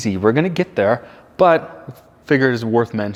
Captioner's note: none